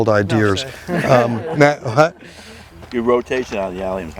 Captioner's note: group laughing